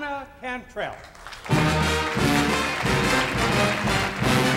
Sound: audience applauding; upbeat music

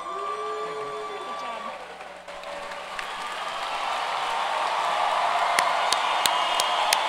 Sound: applause

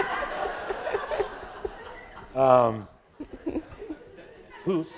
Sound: audience laughing

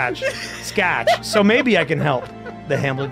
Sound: laughs

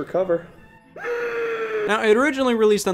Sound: screaming

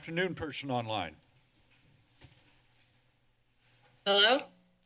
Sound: silence

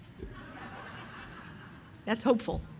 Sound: audience laughing

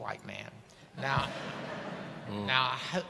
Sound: audience laughing

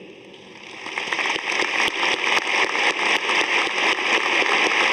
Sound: audience applauding

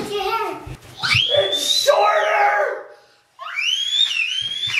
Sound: screeching

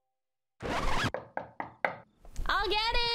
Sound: record scratch; knock at the door

